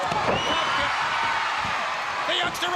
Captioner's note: crowd cheering